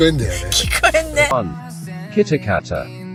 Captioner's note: laughs